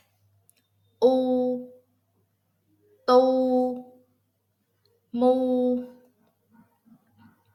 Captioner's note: Vietnamese